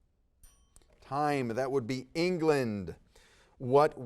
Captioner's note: bell dings